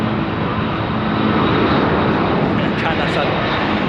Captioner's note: China Southern taking off in the background